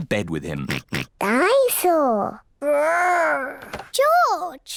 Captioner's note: oinks